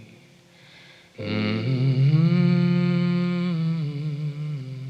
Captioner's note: singer humming